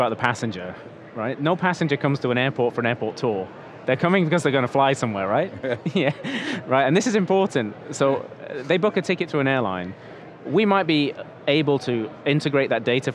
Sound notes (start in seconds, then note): 5.5 laughs